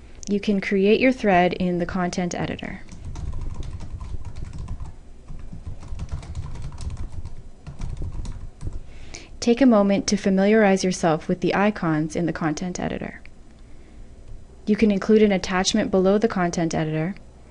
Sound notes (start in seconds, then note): 3.1 typing